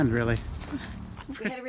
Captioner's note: giggles